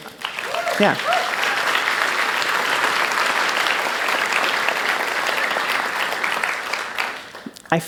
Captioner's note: applause